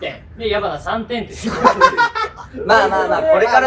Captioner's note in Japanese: 笑い声